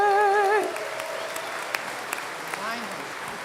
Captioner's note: applause